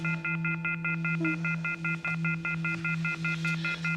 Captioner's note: beeping